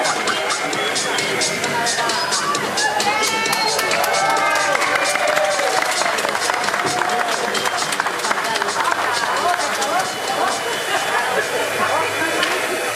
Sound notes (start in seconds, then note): 2.8 speaking in foreign language; 4.4 audience applauding